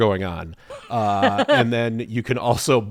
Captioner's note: laughs